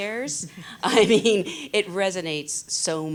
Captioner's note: she laughs